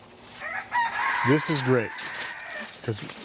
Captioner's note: Winks Rooster crowing, badly